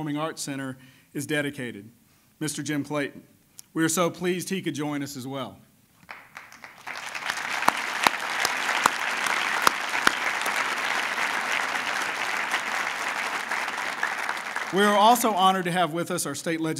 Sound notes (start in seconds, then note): 6.0 applause